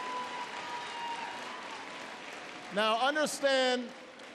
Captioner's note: applause